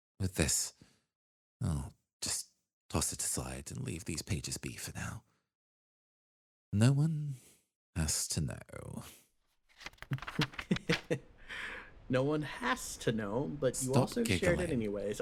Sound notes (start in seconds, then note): 10.2 Etete Chuckle